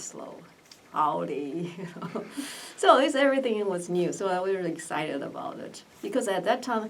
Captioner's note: laughs